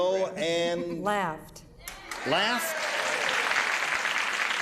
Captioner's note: cheers and applause